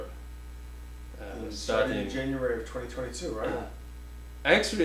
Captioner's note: offscreen Voice